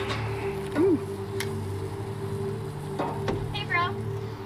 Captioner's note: grill sizzling